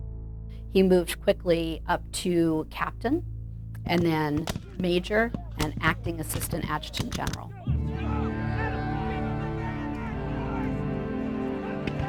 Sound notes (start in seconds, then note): 7.4 men shouting